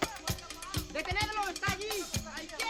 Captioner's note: click, click, people chattering in distance; man speaking a southern European language